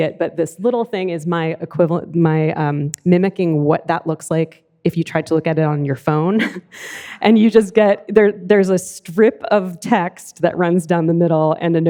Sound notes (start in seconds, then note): 6.8 laughs